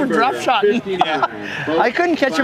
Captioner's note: laughter